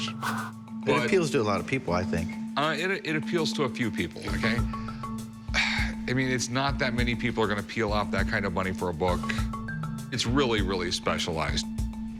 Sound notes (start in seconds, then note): none